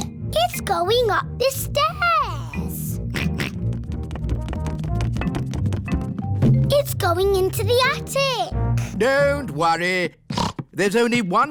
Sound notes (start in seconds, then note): 0.3 snorts; 3.1 george oinks; 10.3 snorts